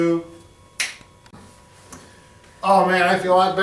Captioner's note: men snap